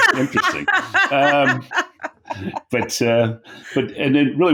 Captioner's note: laughing